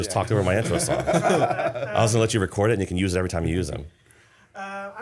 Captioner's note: laughter